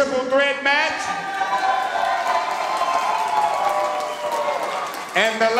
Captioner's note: audience cheering